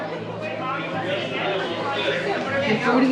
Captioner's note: customers chattering